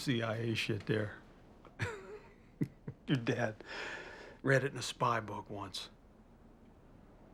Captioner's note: chuckle